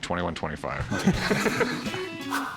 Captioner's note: laugh